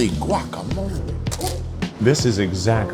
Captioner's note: paper crinkles